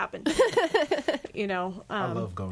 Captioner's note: laughs